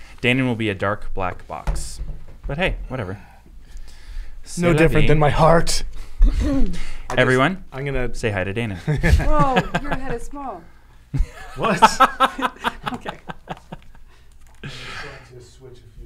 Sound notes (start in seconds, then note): 8.8 laughing